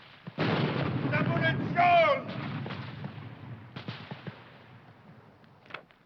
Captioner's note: shouting foreign language